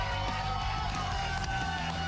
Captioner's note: cheers and applause